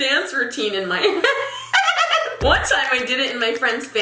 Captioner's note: laughing